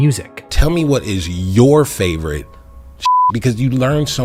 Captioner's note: beep